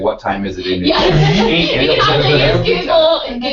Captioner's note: laugh